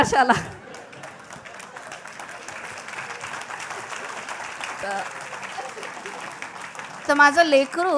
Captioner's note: appluase